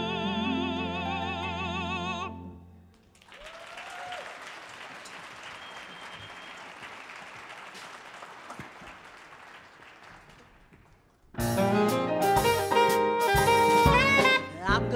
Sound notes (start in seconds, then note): 3.1 audience cheers and applauds; 11.3 jazzy music